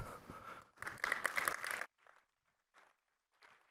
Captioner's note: applause